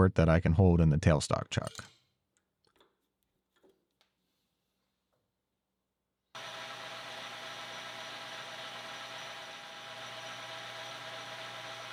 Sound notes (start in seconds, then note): 6.3 machine whirring